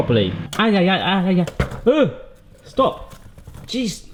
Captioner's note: yelling